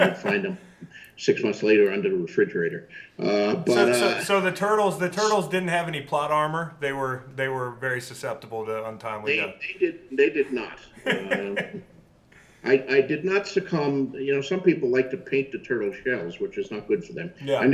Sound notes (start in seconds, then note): 10.3 laughs